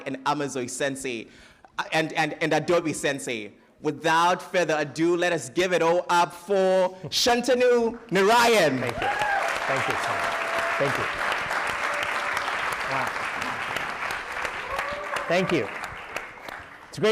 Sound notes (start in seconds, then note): 11.8 applause